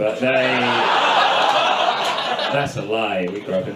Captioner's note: audience laughs